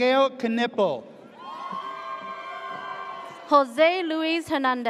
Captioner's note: audience cheers